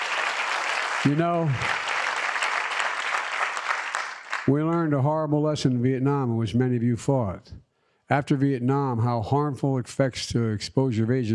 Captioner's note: applause